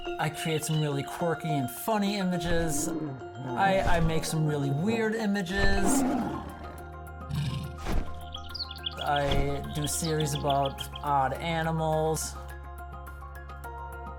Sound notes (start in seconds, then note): 5.5 lion roaring; 7.3 bird chirping